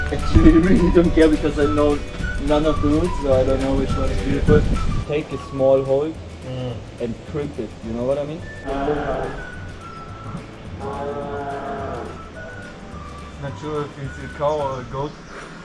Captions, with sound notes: Actually I really don't care because I know none of the routes so I don't know which one is... you take a small hold and crimp it, you know what I mean? [cow mooeing] not sure if it is a cow or a goat